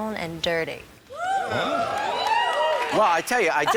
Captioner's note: audience cheering